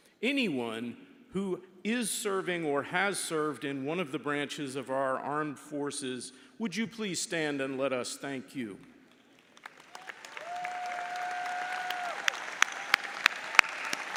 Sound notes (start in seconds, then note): 9.5 audience cheers and applauds